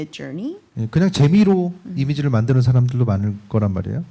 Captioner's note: speaking korean